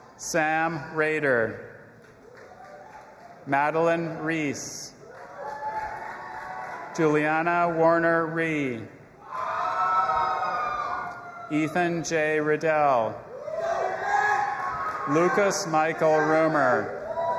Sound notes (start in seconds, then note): 2.0 audience applauding and cheering; 5.0 audience applauding and cheering; 9.3 audience applauding and cheering; 13.5 audience applauding and cheering